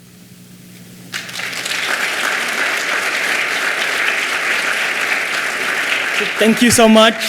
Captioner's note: clapping